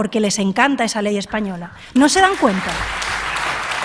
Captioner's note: applause